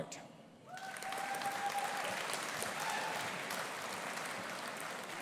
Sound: audience applauding

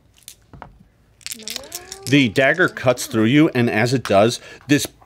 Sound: dice clatter

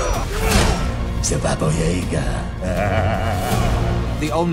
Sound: laughs

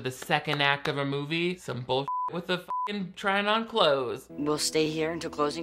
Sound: beep

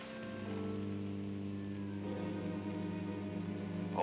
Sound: walkie-talkie humm

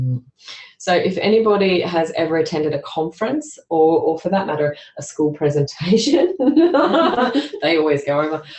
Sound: laughter

